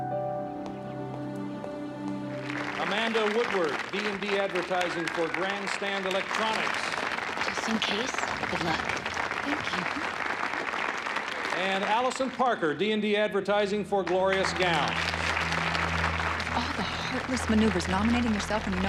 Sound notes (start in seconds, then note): 2.9 audience applauds